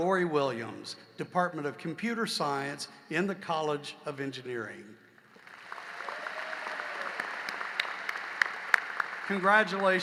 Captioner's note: applause